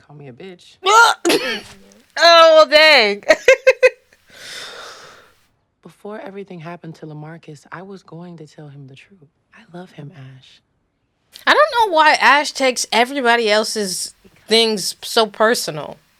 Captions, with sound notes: Oh well dang. [Laughter] I don't know why Ash takes everybody else's things so personal.